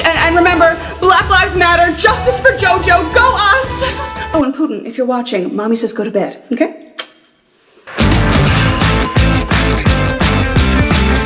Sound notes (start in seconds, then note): 6.6 blows kiss